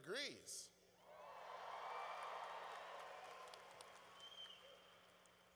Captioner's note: cheering